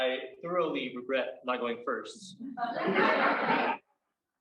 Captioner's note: crowd laughs